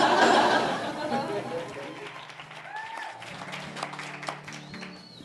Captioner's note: applause